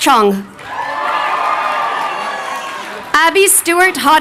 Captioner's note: crowd cheering